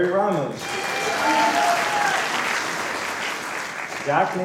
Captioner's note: applause